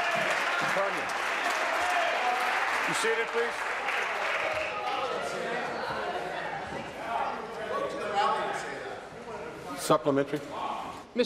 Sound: applause

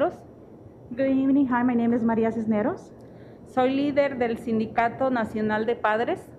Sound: speaking Spanish

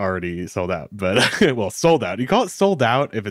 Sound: chuckles

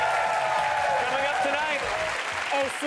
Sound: audience applause and cheers

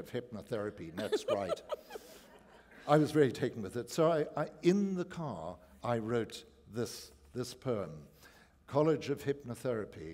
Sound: laughter

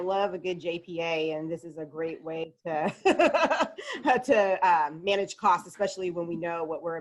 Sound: laughs

